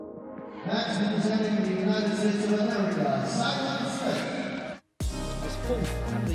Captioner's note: over PA